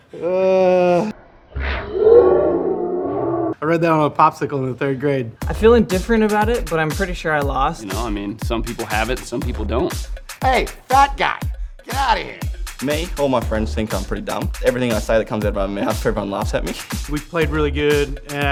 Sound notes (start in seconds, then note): 0.9 laughing in slow motion